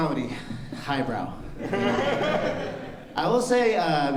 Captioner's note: laughter